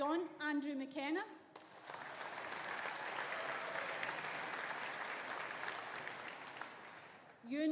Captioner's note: audience applauding; audience cheering